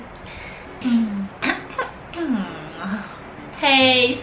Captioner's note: cough